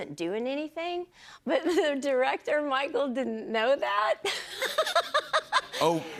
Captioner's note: laughs